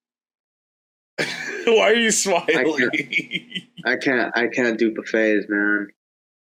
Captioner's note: laughs